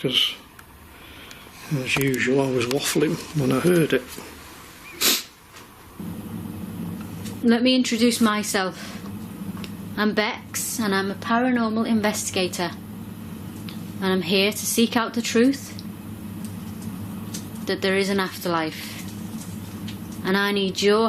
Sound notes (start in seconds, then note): 4.9 sniffs